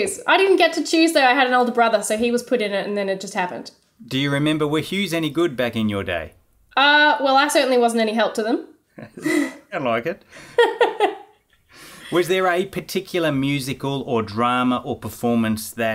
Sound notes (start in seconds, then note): 9.0 both laughing